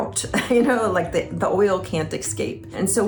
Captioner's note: chuckling